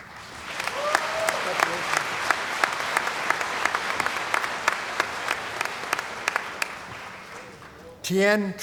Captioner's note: applause